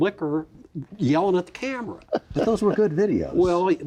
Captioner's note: laughing